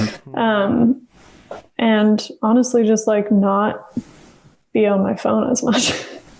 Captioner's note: laughs